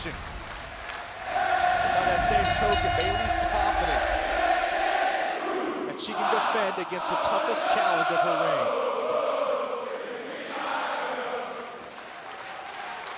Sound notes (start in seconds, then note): 6.0 crowd cheering